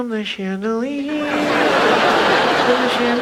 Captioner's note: audience laughs